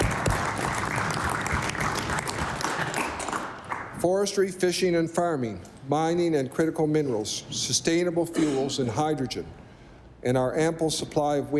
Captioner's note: applause